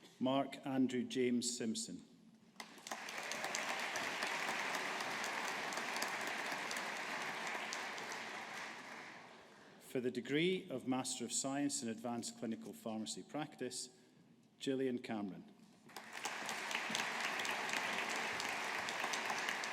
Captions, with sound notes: Mark Andrew James Simpson. (AUDIENCE APPLAUDING) For the degree of Master of Science in Advanced Clinical Pharmacy Practice, Gillian Cameron. (AUDIENCE APPLAUDING)